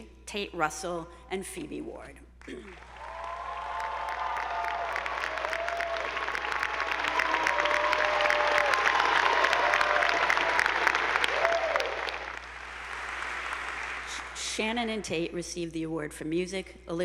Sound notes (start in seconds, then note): 2.8 attendees applauding; 2.8 audience whooping